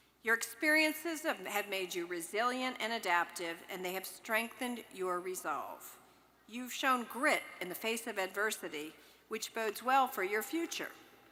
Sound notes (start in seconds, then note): none